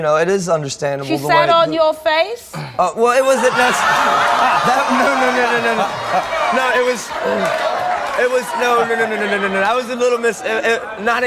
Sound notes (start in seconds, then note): 4.2 audience exclaims in disbelief; 5.0 laughter